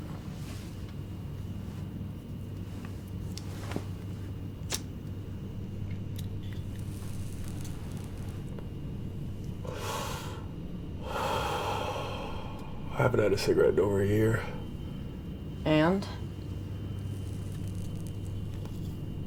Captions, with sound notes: (lighter clicking) (Aden exhaling) - I haven't had a cigarette in over a year. - And?